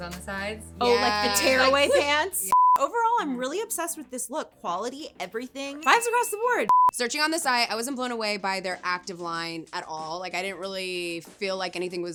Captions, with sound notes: on the sides? - Yeah. - Oh, like, the tearaway pants. (electronic beeping) Overall, I'm really obsessed with this look, quality, everything. (bell ringing) Fives across the board. (electronic beeping) - Searching on the site. I wasn't blown away by their active line at all. Like, I didn't really feel like anything